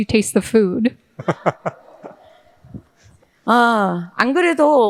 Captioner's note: audience laughing; speaking in foreign language